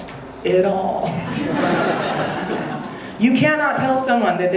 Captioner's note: audience laughing